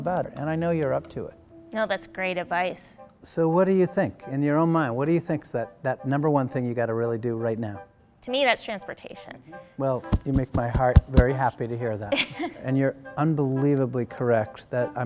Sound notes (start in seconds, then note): 10.0 thumps chest; 12.0 laughs